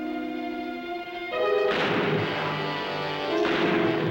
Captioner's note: gunfire